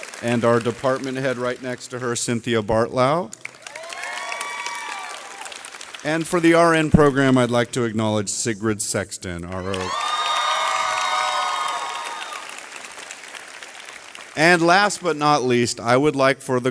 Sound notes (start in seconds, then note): 0.0 audience cheering; 3.6 audience cheering; 9.6 graduates cheering loudly